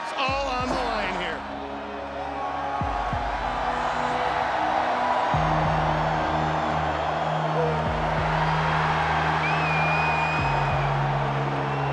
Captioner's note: applause